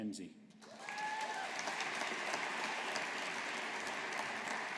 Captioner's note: audience applauding